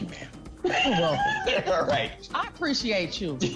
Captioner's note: laughs